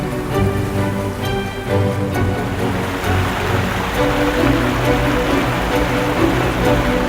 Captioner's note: suspenseful music continues; water cascading